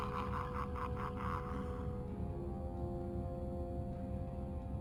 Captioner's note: evil laughter; explosion